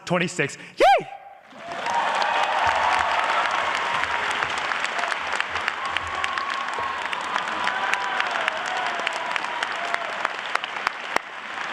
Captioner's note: applause